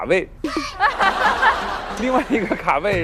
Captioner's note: can't stop laughing